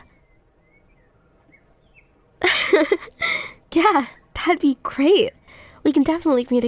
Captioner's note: soft laugh